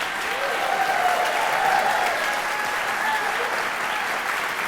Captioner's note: audience cheering